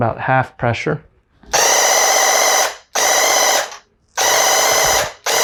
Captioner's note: paint gun blasting